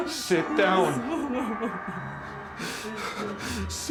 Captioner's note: sobbing